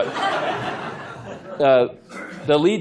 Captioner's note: laughter